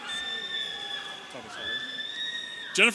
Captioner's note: audience cheering